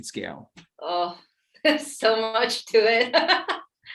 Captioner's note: laughs